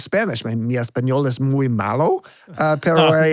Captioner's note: speaking in foreign language